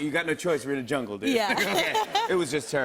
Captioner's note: laughing